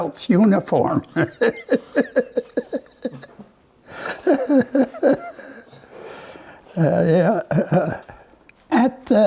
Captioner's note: Rires